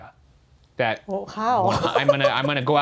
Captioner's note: laughs